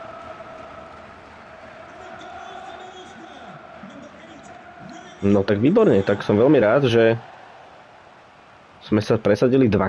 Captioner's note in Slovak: Potlesk